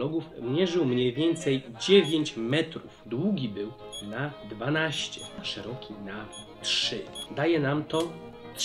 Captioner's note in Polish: dźwięki kalkulatora